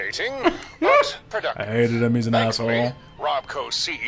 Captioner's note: laughs